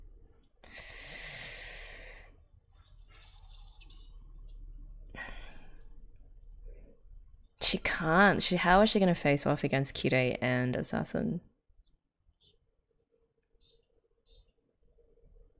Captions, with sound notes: [sharp inhale] She can't - how is she going to face off against Kirei and Assassin?